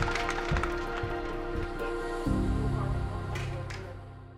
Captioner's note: team claps